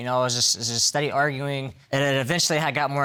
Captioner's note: stammering